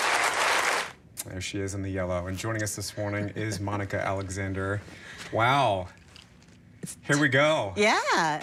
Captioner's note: applause